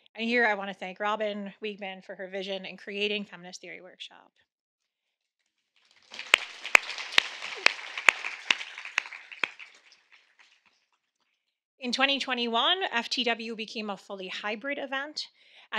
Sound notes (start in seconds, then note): 5.8 audience clapping